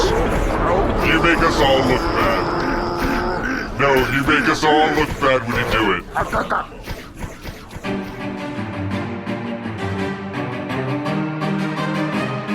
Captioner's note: grunting and gunfire continues; more grunting